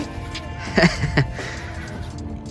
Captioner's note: laughs